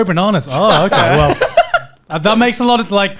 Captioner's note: laughing